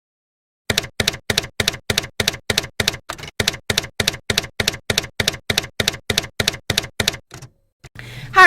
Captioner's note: typewriter keys clacking